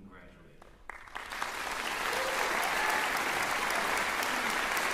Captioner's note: cheering, applause